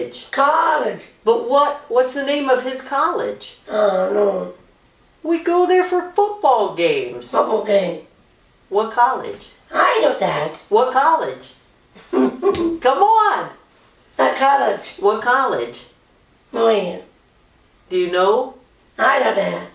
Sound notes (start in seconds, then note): 12.0 laughs